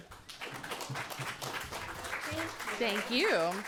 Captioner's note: audience clapping